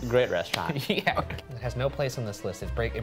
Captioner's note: laughing